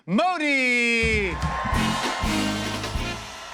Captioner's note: cheers and applause